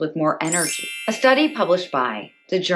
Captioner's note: Tinkerbell sound